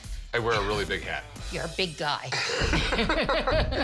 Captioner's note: laughter